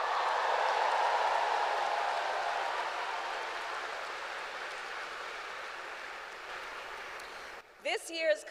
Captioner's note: applause